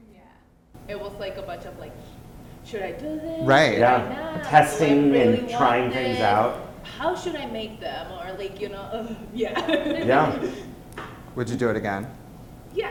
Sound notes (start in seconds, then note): 3.0 voiceover; 4.7 voiceover; 9.4 laughter; 11.2 voiceover